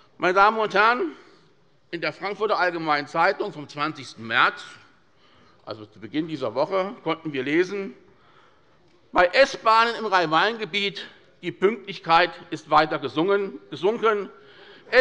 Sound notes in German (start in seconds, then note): none